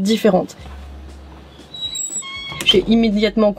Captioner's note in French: Bruitage: porte qui grince et qui claque